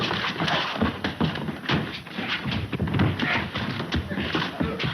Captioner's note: blows thudding